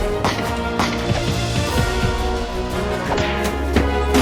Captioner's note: gunshots firing